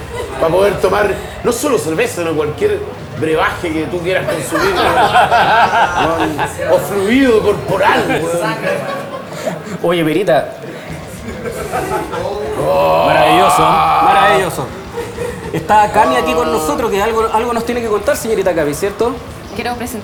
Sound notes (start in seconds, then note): 4.2 laughter